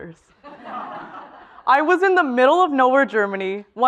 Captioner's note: laugh